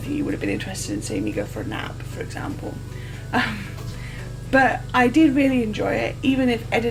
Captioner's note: laughs